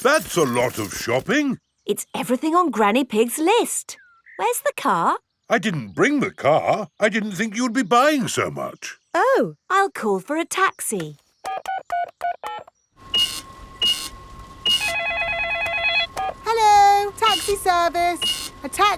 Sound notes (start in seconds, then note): 11.4 dialing; 14.6 cash register beeping; 14.6 beeps; 14.6 cellphone ringing